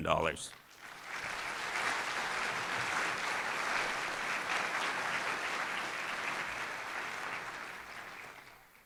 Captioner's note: applause